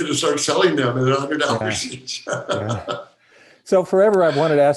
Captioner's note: laughing